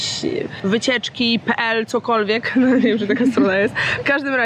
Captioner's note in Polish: śmiech